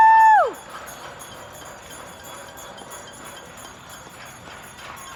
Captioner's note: residents cheering